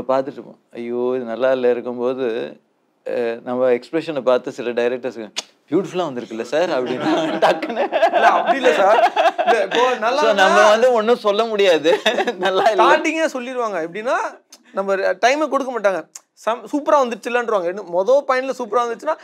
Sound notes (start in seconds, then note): 6.8 laughs